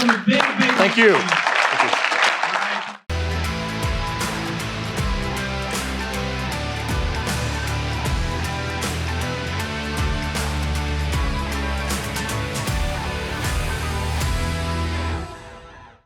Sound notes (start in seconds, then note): 2.0 attendees applauding; 3.1 upbeat rock music